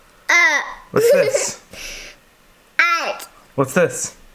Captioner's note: cries